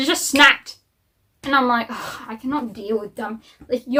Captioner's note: sigh